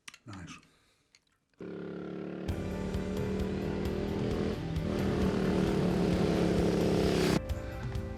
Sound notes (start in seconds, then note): 1.7 engine rumbling; 2.6 upbeat music